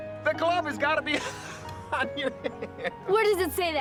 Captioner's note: laughs